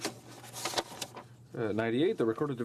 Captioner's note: speaking French